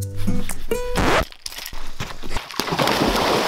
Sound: charming music; record scratch; loud splash

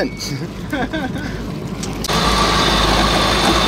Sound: laughter

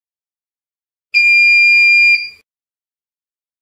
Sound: beep sound

